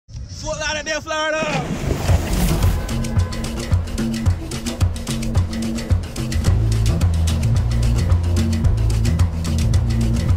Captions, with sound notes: - Fort Lauderdale, Florida! (water splashing) (lively music)